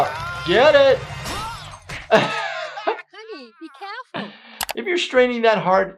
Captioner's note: man yells, laughs